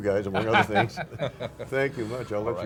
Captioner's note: laughing